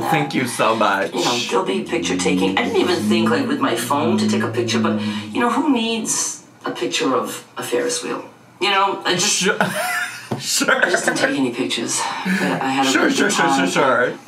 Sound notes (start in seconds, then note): 10.2 laughs